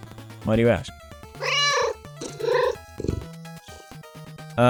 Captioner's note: meow